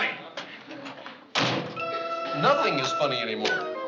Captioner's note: door closing